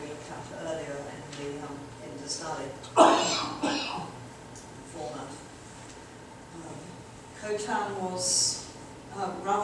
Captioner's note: audience member coughing